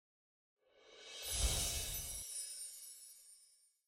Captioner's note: musical note swooshes